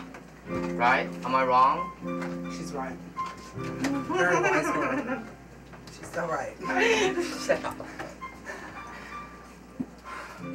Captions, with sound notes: Right? Am I wrong? - [Voiceover] She's right. Very wise girl. (laughter) She's so right.